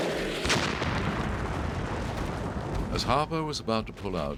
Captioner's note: exploding